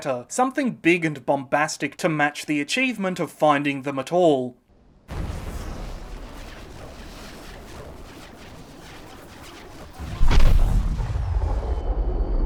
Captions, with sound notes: something big and bombastic to match the achievement of finding them at all. [Crackling grows...] [Boom!]